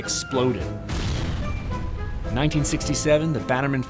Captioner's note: explosion